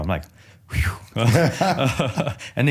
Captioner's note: laughter